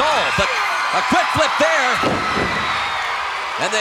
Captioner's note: audience cheering